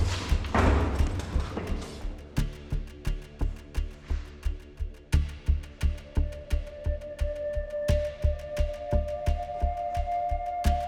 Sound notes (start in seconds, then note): 0.0 door thuds; 2.7 light dramatic music continues